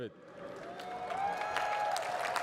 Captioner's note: cheering and applause